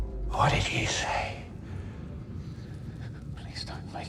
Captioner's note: whispering